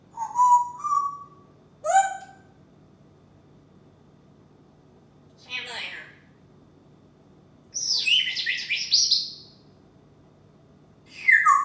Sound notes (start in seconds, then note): 0.1 bird whistles; 7.7 bird singing